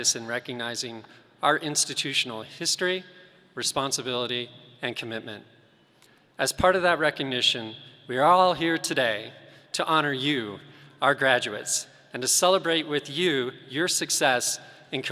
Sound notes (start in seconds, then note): none